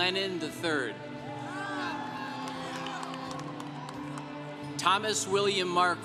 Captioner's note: congregation cheering